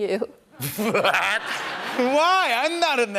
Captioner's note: laughter; laughing